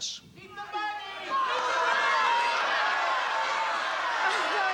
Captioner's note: audience yelling